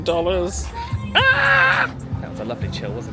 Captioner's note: screams playfully